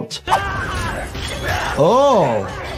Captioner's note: Phase Two yelling; Atom Eve groaning